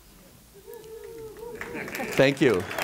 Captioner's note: audience applause